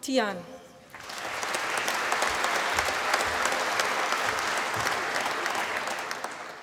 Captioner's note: applause